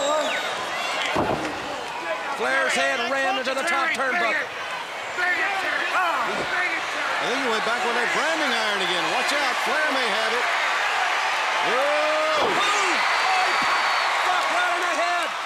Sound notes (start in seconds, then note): 0.0 crowd chatter; 4.8 crowd chatter; 11.9 crowd cheering